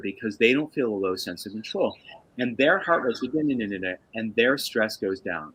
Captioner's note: makes noise - nuhnnuhnuh